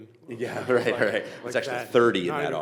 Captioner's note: chuckling